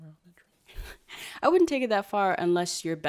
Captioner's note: laughs